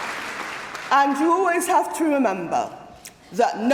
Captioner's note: applause